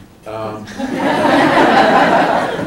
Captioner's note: laughter